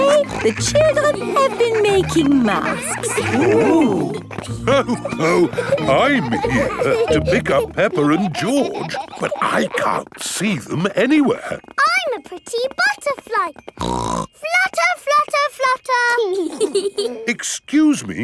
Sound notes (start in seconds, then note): 4.9 laughs; 12.6 snorts; 16.4 both giggling